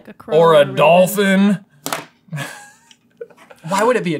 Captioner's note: pen clanks to the table